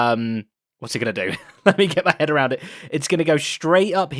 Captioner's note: laughs